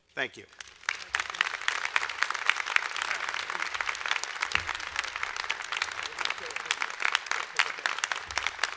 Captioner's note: applause